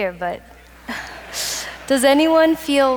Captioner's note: audience laughs